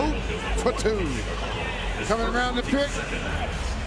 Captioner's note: buzzer